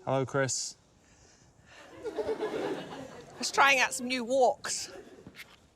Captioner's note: laughter